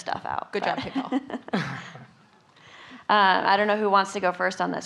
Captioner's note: laughing